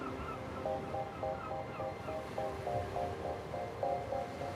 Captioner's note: seagulls call